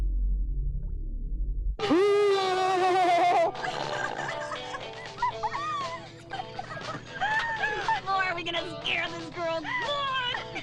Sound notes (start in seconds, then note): 1.8 loud groaning; 2.3 girls laughing